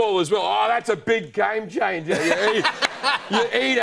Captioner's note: laughter